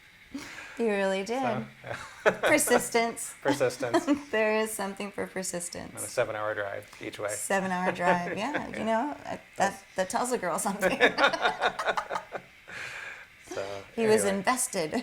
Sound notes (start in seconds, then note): 10.8 laughter